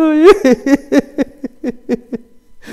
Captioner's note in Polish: śmiech